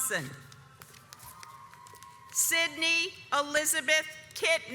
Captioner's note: audience applauds